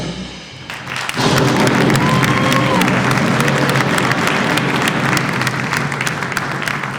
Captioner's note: audience applauds; TNT explosion booms